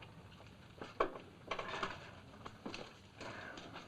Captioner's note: chair creaks